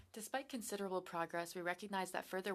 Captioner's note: speaking french